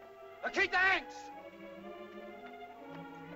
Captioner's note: dramatic music; Tumak shouts in caveman language; tense music